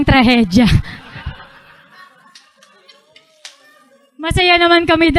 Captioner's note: laughter